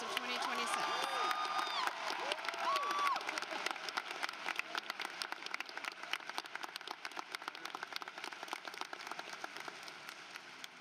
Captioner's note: applause